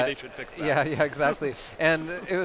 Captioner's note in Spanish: risas